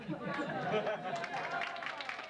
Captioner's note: audience laughs; audience applauds